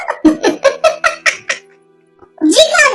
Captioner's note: laughs